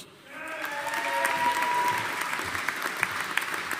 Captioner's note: audience applauding